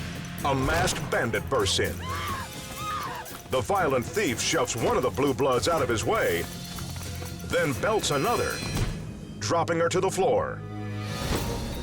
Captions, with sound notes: a masked bandit bursts in. (woman screams) The violent thief shoves one of the blue-bloods out of his way, then belts another, dropping her to the floor.